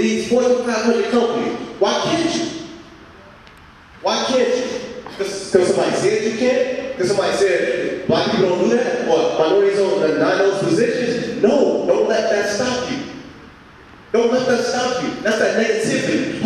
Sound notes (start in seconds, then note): none